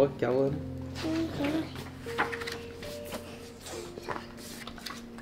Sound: book pages rustling

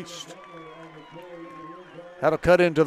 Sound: crowd cheering

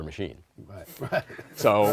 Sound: laughter

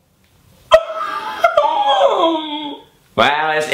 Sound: Caspar laughs

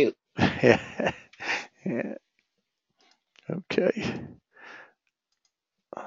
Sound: laugh

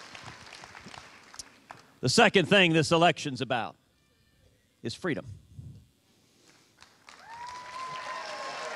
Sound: cheers and applause

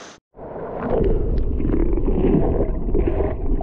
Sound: creek water

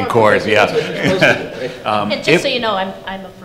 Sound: laughter

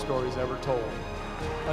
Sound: applause

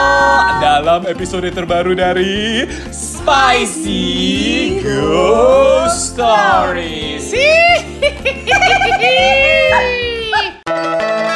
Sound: ghost's voice

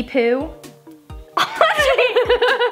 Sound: laughter

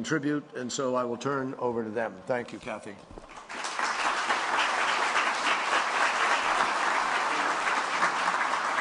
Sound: applause

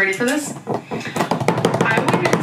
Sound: tapping

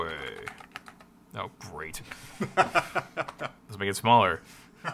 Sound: laughs

